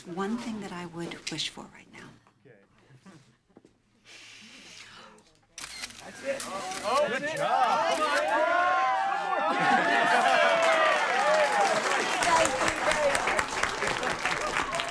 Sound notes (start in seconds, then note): 5.6 cameras shutter clicks; 10.0 all cheering